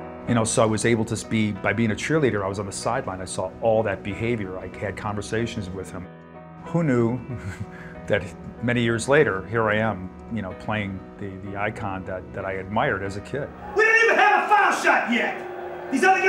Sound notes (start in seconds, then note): 7.3 laughs; 16.1 crowd booing